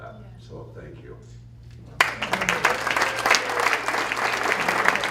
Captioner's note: applause